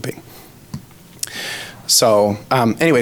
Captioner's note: smacks lips